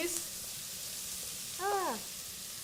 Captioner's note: pan sizzling